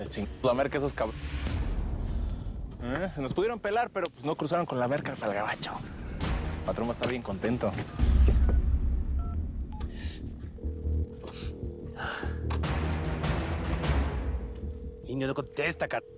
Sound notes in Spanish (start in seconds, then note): 10.5 Sonido al marcar; 11.6 La otra línea timbra